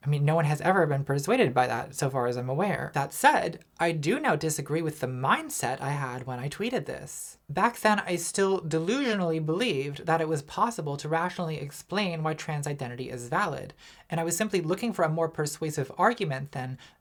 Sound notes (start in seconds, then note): none